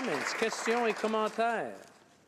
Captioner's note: some Applause